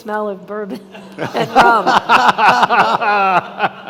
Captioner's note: all laughing